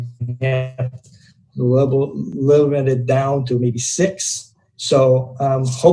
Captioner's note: murmurs